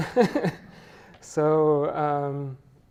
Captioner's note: chuckles